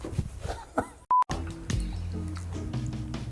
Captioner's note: beep